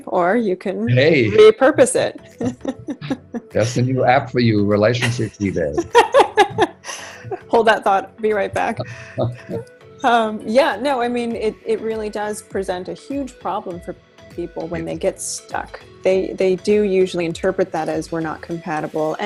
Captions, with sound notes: or you can-- - Hey, - Repurpose it. (laughs) - That a new app for you relationships with this. (laughs) - Hold that thought we'll be right back. (laughs) Yeah, no, I mean, it really does present a huge problem for people when they get stuck. They do usually interpret that as we're not compatible,